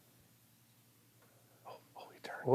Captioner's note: whispering